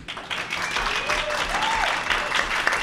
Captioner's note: applause